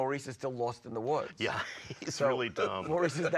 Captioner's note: laughs